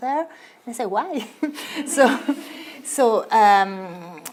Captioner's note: audience laughs